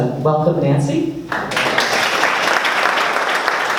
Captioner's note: applause